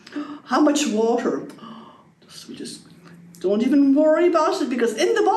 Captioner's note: gasps